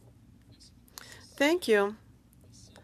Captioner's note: speaking French